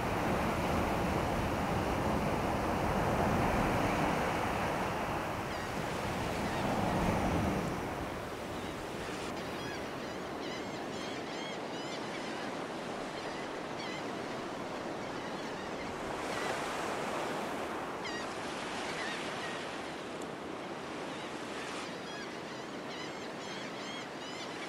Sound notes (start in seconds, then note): 0.0 waves crashing; 9.5 birds; 18.4 waves